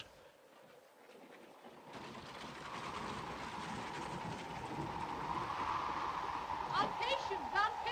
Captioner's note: wind blows